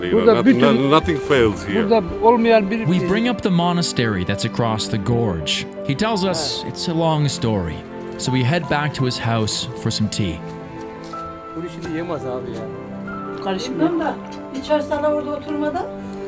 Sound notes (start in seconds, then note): 2.1 speaks foreign language; 11.8 family speaking foreign language